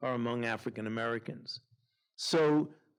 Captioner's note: none